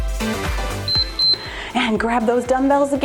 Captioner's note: timer beeps